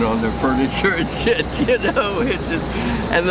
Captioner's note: laughs